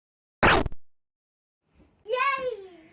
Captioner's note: gunshot zaps